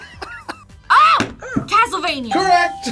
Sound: buzzer barks

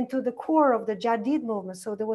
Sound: foreign language

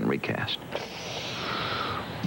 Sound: sharp intake of breath, to indicate awkwardness

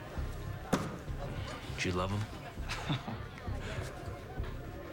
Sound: chuckles

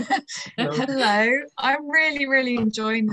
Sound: laughs

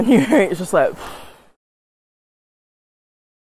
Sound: exhales

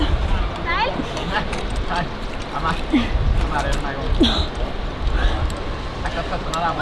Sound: other climbers chattering in foreign language

